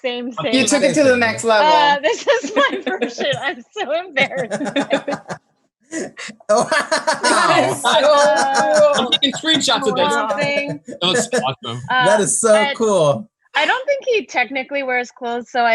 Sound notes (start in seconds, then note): 3.8 laughs